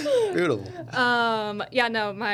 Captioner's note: laughing